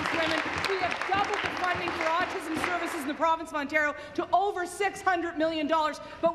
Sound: applause

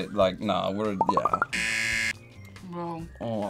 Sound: buzzer rings

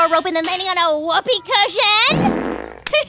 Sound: fart sound; maniacal laughter

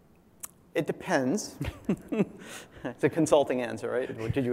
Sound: laugh

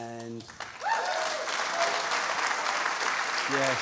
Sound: cheers and applause

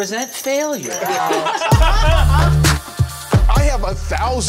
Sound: they laugh

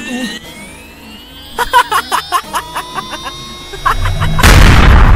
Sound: Cane's Cup Laughing

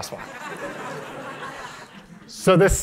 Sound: laughter

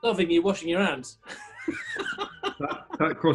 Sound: laughing

